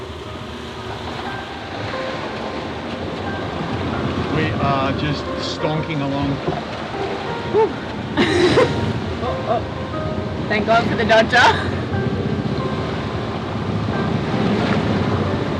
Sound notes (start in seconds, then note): 1.3 light piano; 8.1 laughs